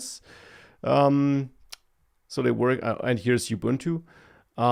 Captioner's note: smacks lips